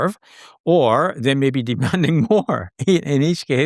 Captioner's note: chuckles